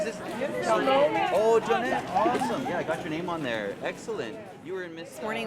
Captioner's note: crowd noise